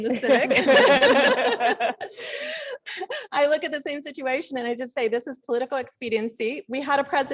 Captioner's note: laugh